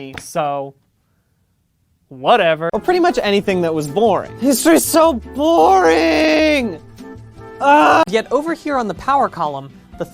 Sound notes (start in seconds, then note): 7.6 loud groaning